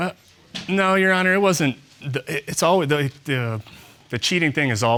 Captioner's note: stammering